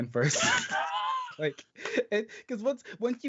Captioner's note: laughing